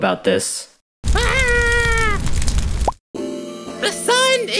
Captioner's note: pop sound as he stops burning